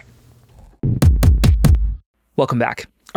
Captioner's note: graphic thudding